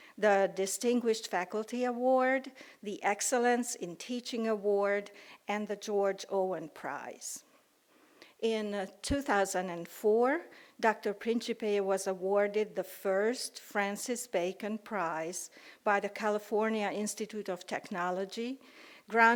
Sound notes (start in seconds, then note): none